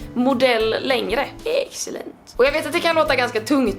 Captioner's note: Mr Burns style